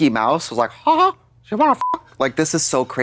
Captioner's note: beep